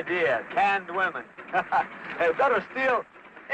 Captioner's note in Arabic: يضحك